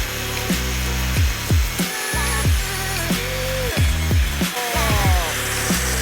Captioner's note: dubstep music; buzzsaw